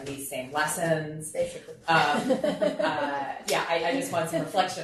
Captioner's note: group laughing